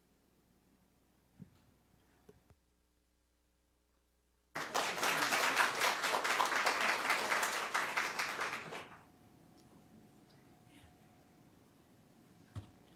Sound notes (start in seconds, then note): 0.5 applause